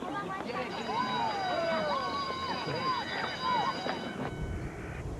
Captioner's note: bell rings